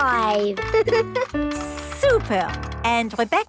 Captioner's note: giggles